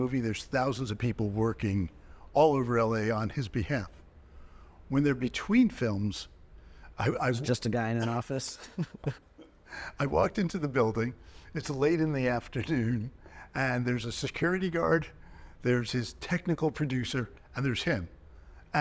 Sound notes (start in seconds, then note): 8.0 chuckling